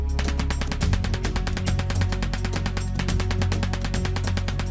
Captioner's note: bullets popping